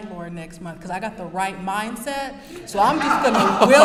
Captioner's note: brief laughter